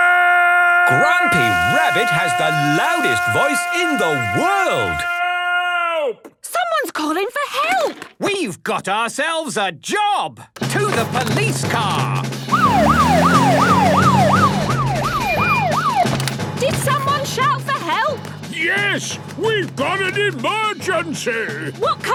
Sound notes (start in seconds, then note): 12.5 siren wailing